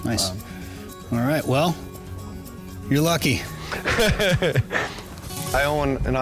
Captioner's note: laughter